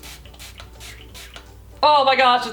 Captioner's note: spritz spritz spritz